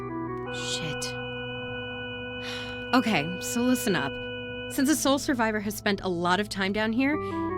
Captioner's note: sigh